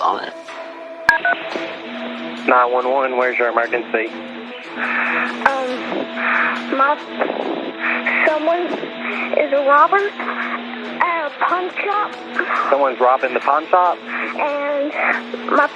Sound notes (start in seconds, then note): 2.0 beeeepiping